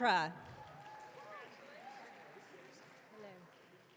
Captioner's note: audience cheering